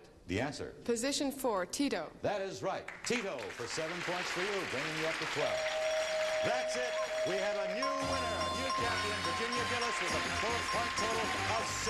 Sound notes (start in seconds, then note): 5.5 dinging